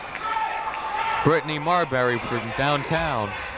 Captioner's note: people shouting in the crowd